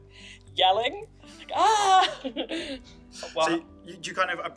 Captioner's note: Ögra yells